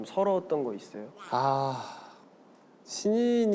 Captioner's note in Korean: 탄식